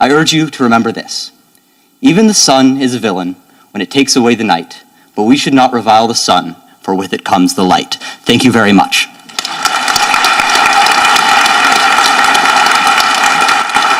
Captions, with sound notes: I urge you to remember this. Even the sun is a villain when it takes away the night. But we should not revile the sun for with it comes the light. Thank you very much. (audience applauding)